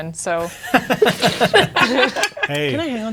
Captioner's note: players laughing